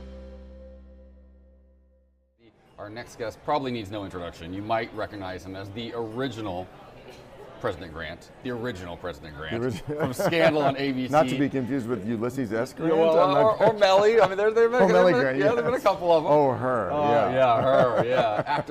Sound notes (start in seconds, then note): 13.6 laughs; 17.4 more laughs